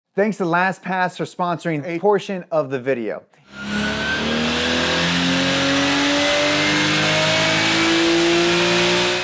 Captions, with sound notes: - Thanks to LastPass for sponsoring a portion of the video. (engine roaring sound)